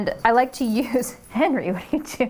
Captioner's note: bells chiming